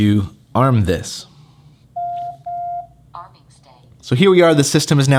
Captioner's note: beep